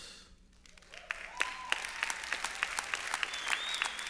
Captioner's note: applause